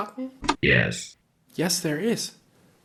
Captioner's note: robotic voice